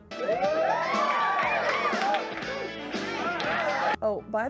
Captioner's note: cheering and applause